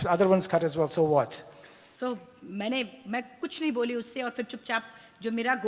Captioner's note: speaks foreign language